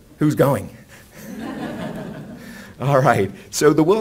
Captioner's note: laughs